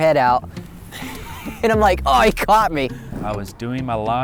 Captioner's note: laughs